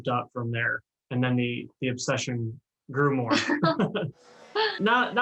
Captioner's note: laughs